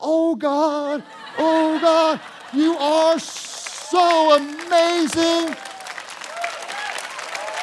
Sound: congregation cheering

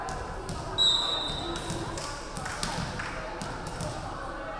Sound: referee whistling

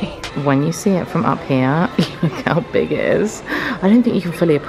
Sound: laughs

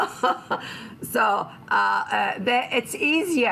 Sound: laughter

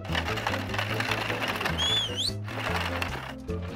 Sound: whistles

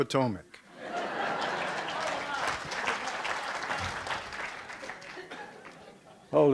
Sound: background laughter; applause

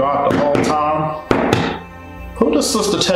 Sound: banging on desk

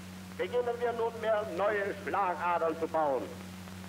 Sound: speaking German

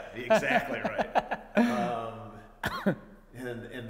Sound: laughing

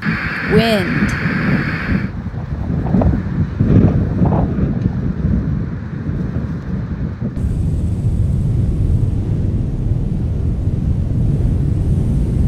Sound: wind blowing

